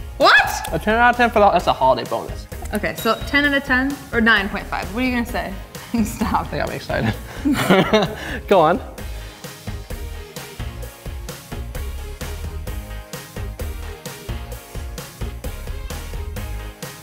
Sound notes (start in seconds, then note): 6.9 laughing; 9.4 upbeat lighthearted music